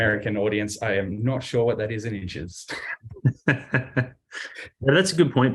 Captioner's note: laughs